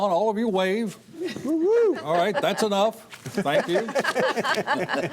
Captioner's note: laughter